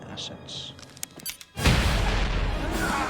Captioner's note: click, beep; fast-paced music, fight noises; explosion